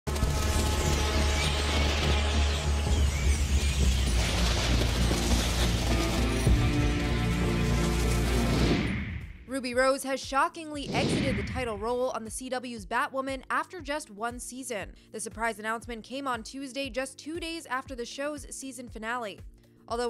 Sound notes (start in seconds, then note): 0.8 bats screeching; 4.3 dramatic music